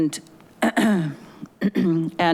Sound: cat clears throat

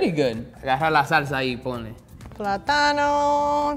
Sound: speaking in foreign language

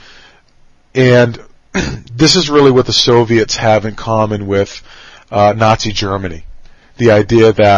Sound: cough

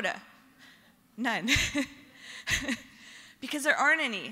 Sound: laughter

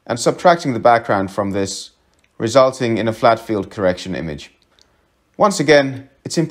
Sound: click

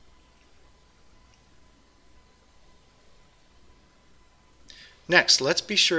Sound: pause

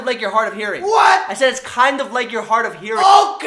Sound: enunciating

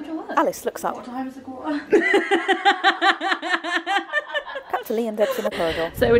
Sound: laughter

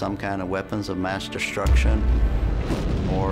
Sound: explosion

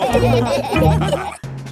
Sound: all laughing

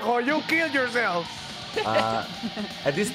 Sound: laughs

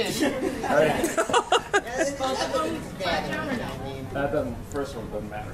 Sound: laughter, indistinct conversations

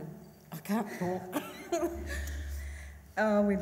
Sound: laughs

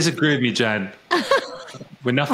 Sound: laughing

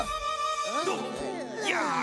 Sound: all groaning

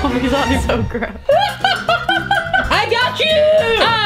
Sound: laughing

